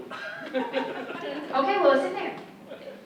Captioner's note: audience laughs